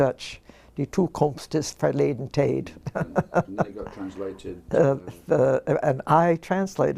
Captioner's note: laugh